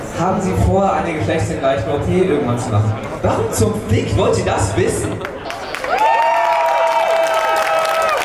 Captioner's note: applause